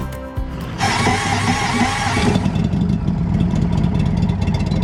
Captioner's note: motorcycle engine starting